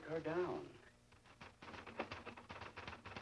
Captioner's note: typing